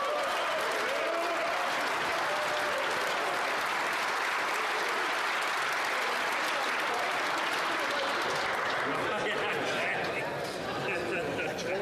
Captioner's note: some Applause